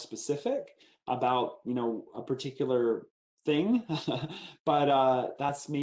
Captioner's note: laughs